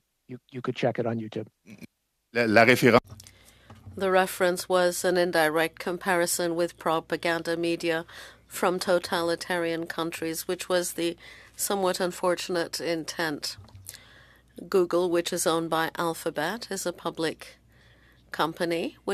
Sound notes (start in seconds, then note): 9.1 speaking French